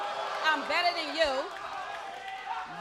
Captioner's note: crowd exclaims; crowd boos